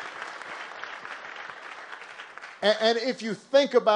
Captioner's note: applause